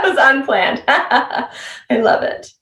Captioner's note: chuckling